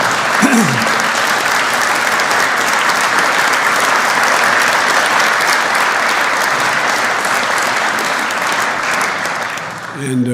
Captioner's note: applause